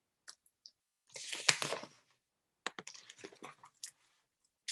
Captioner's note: paper rustling